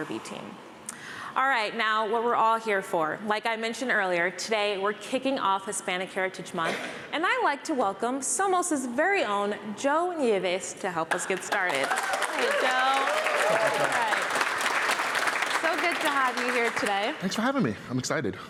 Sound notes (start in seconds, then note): 11.1 applause